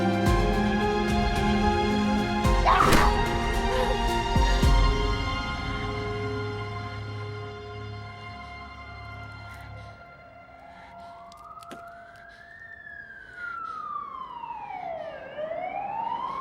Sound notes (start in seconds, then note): 2.6 Aleks grunting; 10.1 police sirens wailing